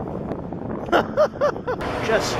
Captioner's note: laughter